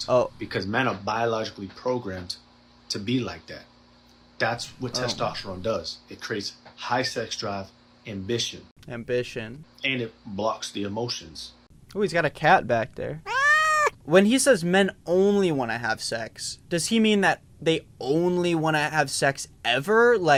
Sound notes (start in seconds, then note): 13.2 cat meowing